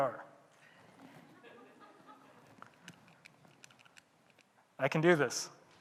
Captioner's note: audience laughing